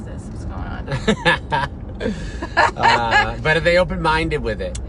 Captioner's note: laughing